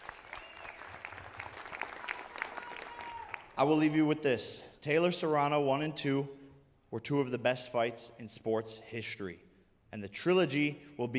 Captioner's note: applause